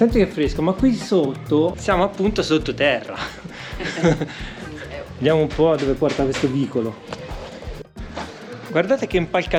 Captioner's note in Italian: risate